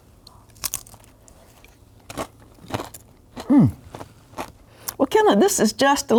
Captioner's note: chips crunching